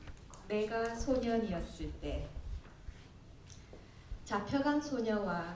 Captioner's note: speaking korean